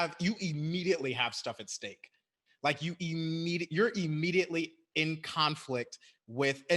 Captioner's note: none